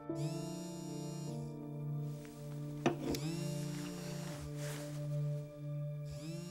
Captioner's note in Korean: 휴대전화 진동음